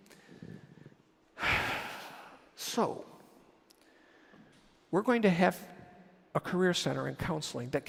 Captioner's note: sighs